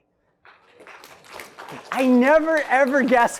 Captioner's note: applause